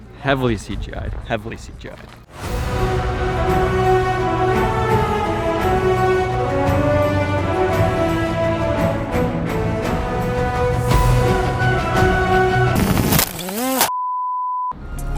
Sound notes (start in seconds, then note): 2.7 epic music; 12.9 rotors buzzing; 14.1 beeping